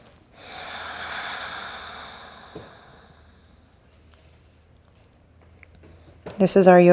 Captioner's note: breathe